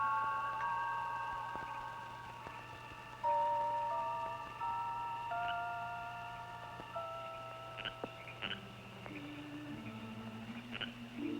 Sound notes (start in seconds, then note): 7.1 frogs croaking